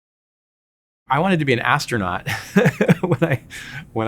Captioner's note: laughing